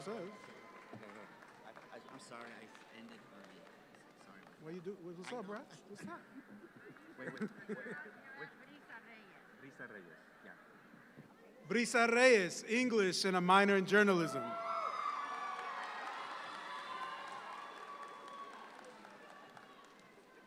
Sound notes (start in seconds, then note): 13.9 audience cheer